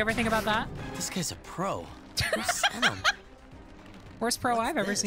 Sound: laughs

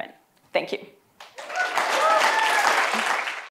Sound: applause

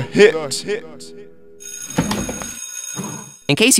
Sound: school bell rings

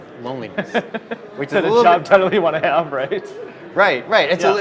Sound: laughs

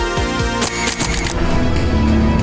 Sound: none

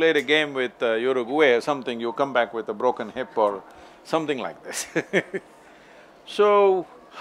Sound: laughs

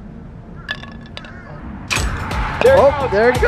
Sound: metal clink; drum thumping

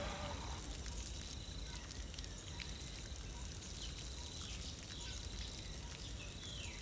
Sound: crickets chirping; water trickling

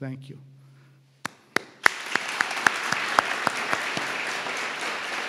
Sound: and crowd applauding

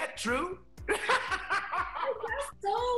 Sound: laughs

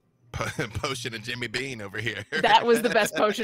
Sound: laughs

